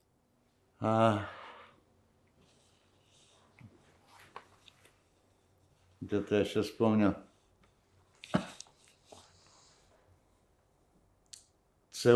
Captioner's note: ukrainian